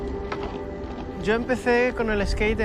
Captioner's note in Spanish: voz en off